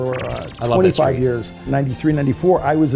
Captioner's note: digital pulsing